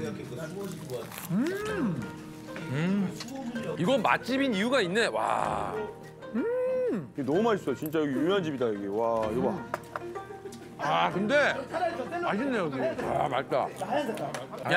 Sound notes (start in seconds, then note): 0.6 eating